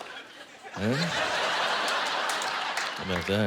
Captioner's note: laughter